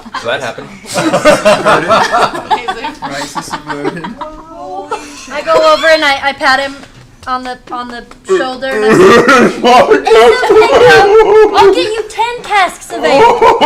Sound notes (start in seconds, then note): 8.9 tearfully